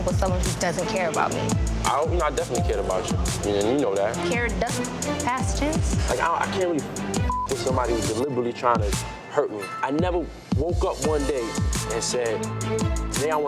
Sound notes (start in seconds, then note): 7.2 beep